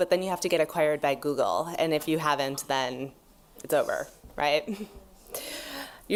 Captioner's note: laughs